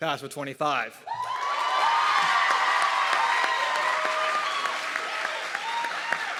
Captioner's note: audience clapping and cheering